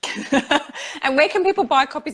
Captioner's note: laughs